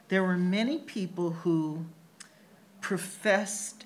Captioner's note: none